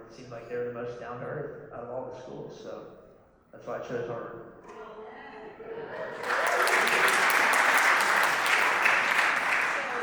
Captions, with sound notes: it seemed like they were the most down to earth out of all the schools. So that's why I chose Harvard. [APPLAUSE]